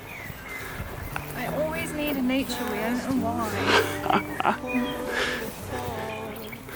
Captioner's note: laughing